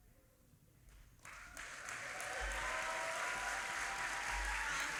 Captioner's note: audience applauding